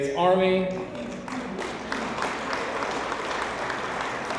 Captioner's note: audience applauds